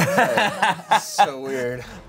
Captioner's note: laughs